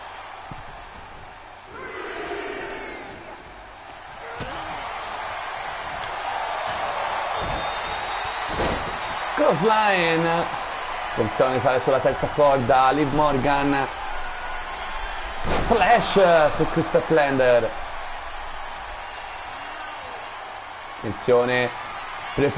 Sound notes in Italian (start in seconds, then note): 8.4 Applauso